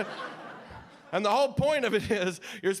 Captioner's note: audience laughing